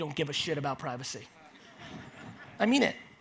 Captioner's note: audience laughs